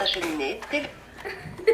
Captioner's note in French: rires